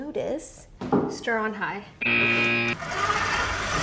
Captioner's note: buzzer beeps; mixer whirring